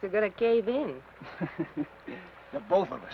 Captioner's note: Ben chuckles